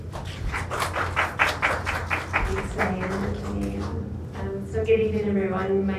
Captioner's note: audience applauding